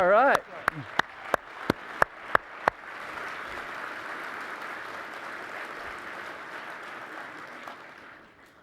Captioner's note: applause